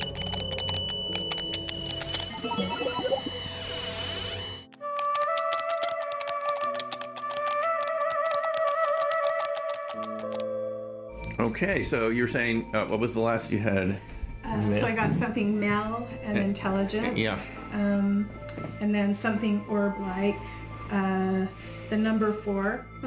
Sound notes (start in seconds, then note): 0.0 eerie music; 0.0 keys typing; 4.6 keys typing; 5.4 eerie music